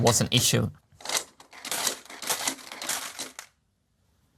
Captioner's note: marbles rolling and dropping, prototype clicking